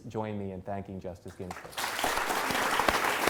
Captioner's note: applause